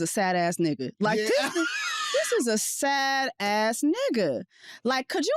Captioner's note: laughs